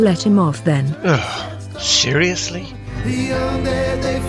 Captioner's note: groans